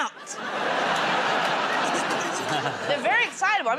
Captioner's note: laughter